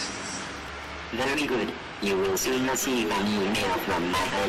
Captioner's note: voiceover